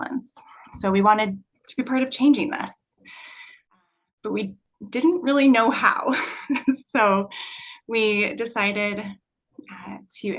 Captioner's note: chuckle